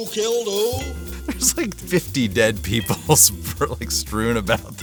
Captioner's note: laughing